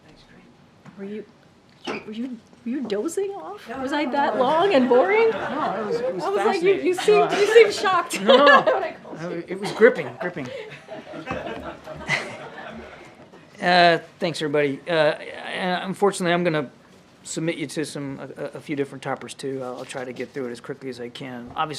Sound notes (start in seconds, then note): 4.6 laughter; 8.3 laughs; 11.2 laughter